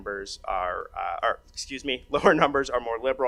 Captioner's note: laughs